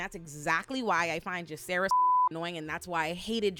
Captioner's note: beep